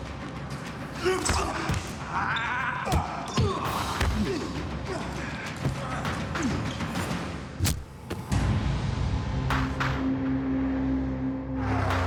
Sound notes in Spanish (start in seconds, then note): 3.0 Gemidos; 3.1 Exclamaciones; 3.1 Golpes